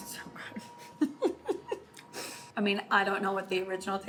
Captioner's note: laughs